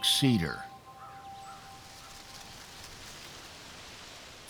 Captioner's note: corn stalks rustling